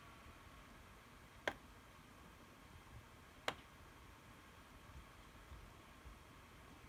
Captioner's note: tapping on computer mousepad